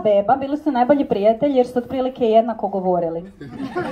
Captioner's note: laughter